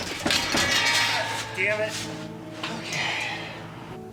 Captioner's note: metal clanking